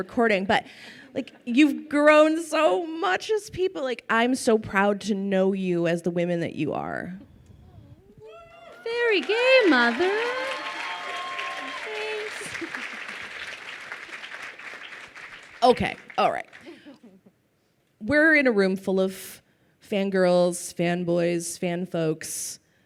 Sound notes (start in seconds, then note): 10.2 crowd cheering; 12.3 giggles